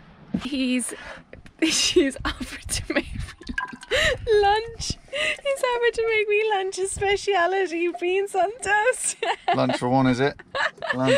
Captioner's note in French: rire